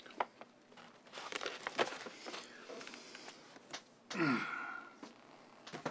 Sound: sighs

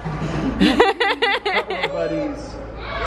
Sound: laughing

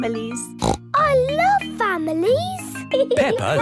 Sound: snorts

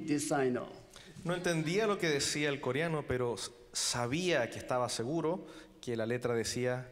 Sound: translating in foreign language

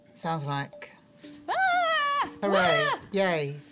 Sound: yelling

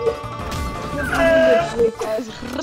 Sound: weird animal sound

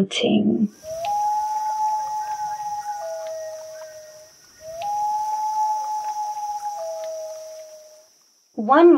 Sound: loon call

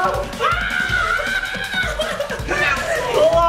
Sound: screaming

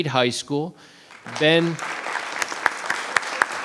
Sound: applause

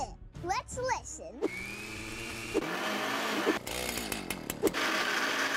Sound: blender whirring

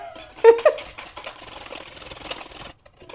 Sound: laughter

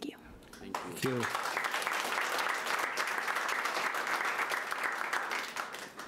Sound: audience applauding

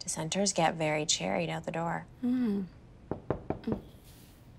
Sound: knock on door

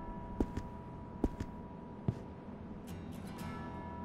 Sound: bell tolling; steps thudding

